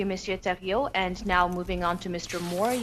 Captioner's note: speaking FRENCH